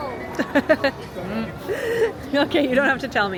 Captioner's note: laughing